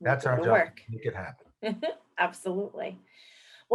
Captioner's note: chuckles